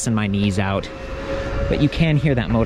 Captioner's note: motor humming